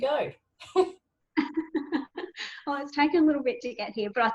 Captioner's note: speakers laugh